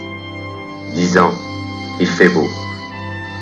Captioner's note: voiceover of man speaking in french